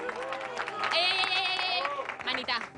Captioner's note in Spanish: Aplausos